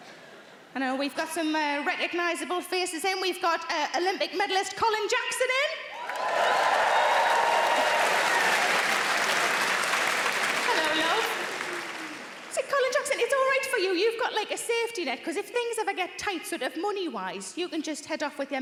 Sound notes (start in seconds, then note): 5.9 audience cheering